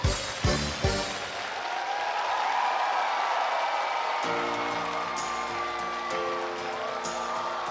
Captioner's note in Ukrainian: оплески